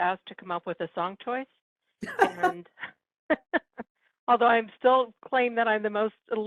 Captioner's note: laughing